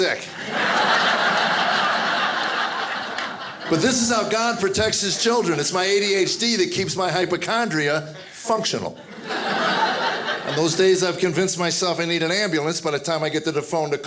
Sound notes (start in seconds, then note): 0.1 audience laughing; 8.0 audience laughing